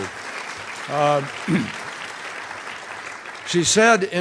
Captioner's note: applause